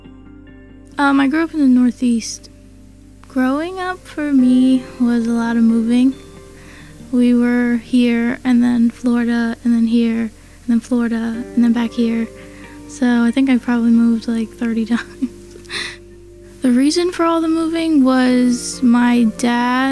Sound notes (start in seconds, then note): 15.0 laughs